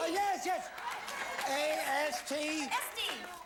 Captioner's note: audience laughing